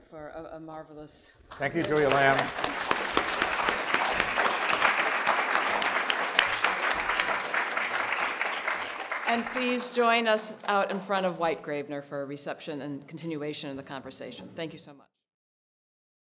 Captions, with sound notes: for a marvelous. - Thank you Julia Lamm. (audience clapping) And please join us out in front of White-Gravenor for a reception and continuation of the conversation. Thank you so much.